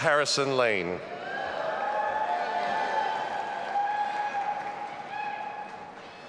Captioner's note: audience applauding and cheering